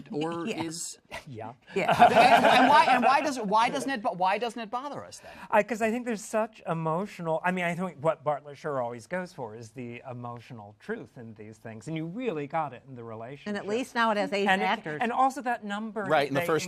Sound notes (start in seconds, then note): 1.7 laughter